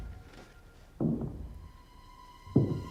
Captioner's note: thudding